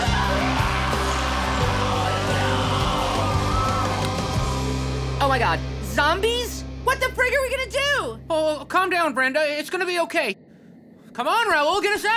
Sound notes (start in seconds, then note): 2.2 growling and screaming